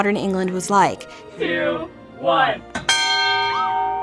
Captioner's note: bell rings